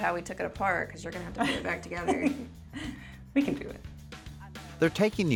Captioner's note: chuckles